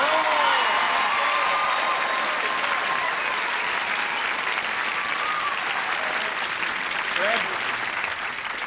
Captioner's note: applause